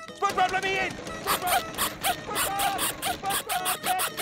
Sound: squeaking

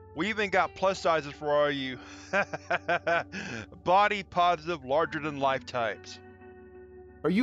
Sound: laughs

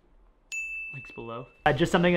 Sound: bell dings

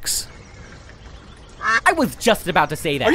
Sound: quack

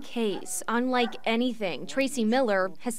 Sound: dog barking

